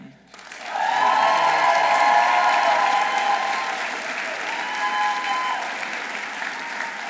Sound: audience applauding; audience cheering

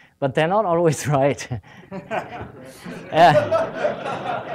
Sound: laughter

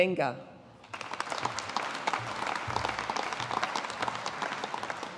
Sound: audience applauding

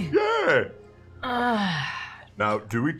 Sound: groans

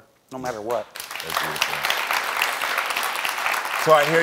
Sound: audience applauding

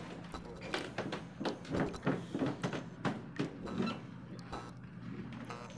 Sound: stomping footsteps

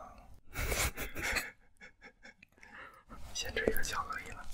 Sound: laughter +2

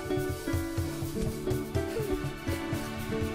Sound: sighs

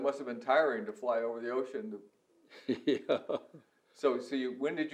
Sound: laughs

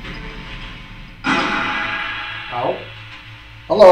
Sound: radio noise hissing; radio noise reverberating

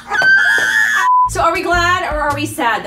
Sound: laughter; beeps

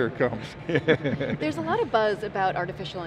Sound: laughing

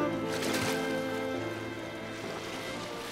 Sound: water splash

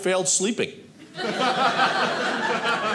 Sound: audience laughing

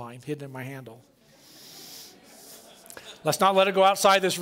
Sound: laughter

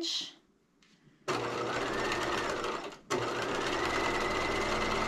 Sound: sewing machine clunking

